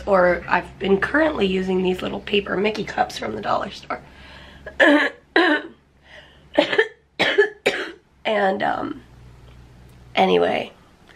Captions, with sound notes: I've been currently using these little paper Mickey cups from the dollar store. [clearing throat] [coughing] And um... anyway.